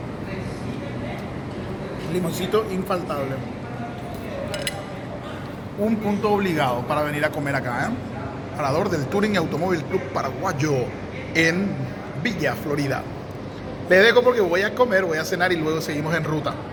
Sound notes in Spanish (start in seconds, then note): none